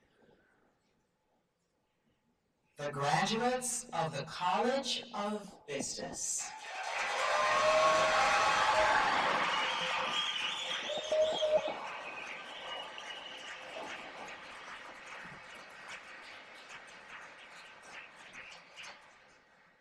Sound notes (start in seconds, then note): 0.1 silence; 6.4 cheers and applause